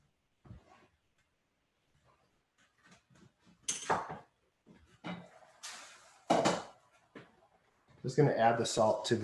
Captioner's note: silence